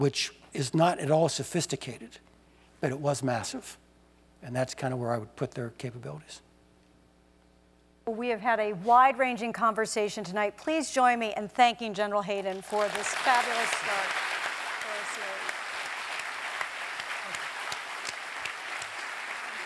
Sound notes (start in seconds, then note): 14.6 applause